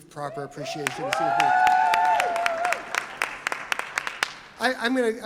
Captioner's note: audience cheers